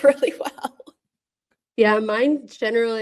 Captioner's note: laughs